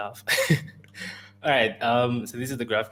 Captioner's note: laughs